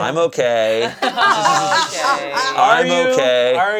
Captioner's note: group laughing